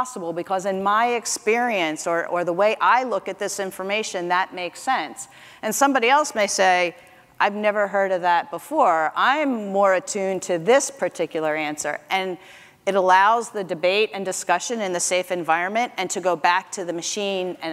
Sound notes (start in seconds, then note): none